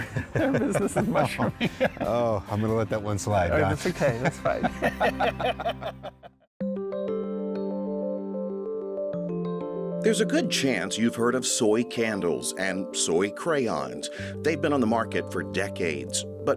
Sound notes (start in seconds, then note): 0.0 both laughing; 3.8 both laughing